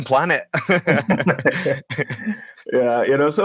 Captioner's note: speakers laughing